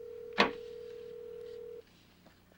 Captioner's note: telephone rings